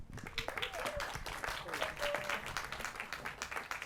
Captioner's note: applause